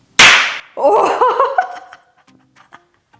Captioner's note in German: lautes Klatschen; lacht